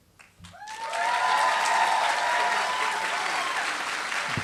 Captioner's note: applause